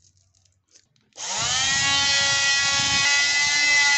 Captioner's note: machine whirring